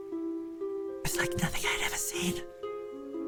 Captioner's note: whispered